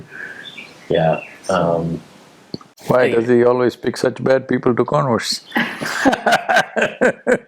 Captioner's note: laughs